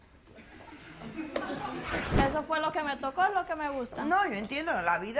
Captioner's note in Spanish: Risas del público